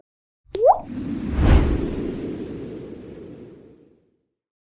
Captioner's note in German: Wind